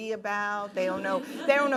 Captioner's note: laughing